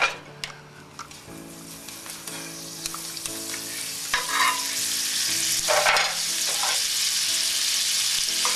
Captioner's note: sizzling sound